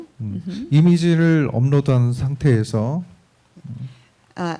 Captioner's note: speaking korean